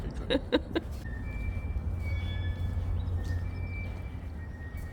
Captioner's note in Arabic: الكثير من الصرير